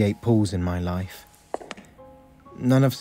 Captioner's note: footsteps